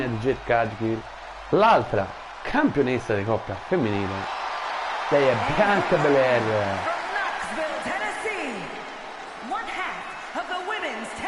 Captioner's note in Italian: Applauso